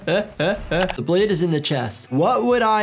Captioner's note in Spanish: riendo; chasquido del teclado